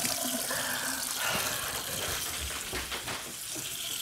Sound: water running

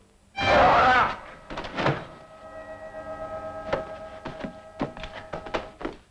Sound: tense music; Andy screams

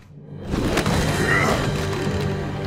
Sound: grunting

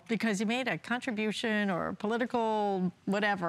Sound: none

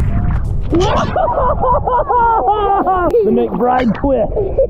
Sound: grunts; everyone laughs

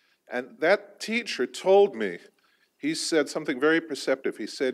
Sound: none

